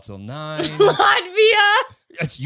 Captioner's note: laughs